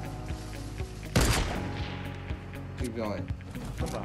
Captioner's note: explosion effect